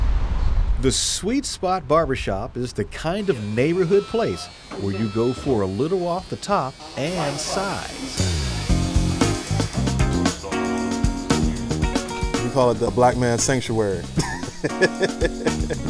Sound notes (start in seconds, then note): 8.2 upbeat music; 8.2 clippers buzzing; 14.0 laughs